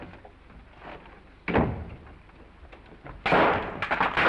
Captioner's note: footsteps receding; door slams; glass shattering